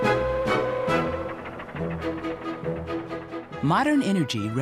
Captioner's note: lively music; whistle blowing; train chugging